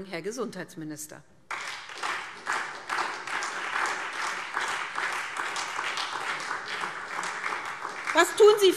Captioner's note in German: Beifall SPD und vereinzelt Freie Demokraten